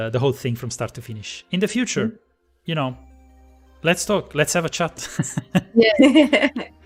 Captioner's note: laughs